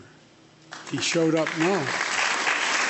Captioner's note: applause